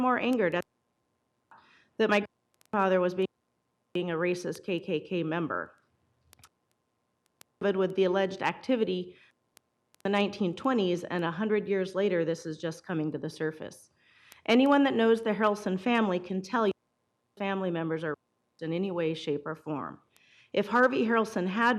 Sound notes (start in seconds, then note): 7.2 audio cutting in and out